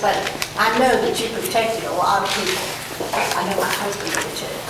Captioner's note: none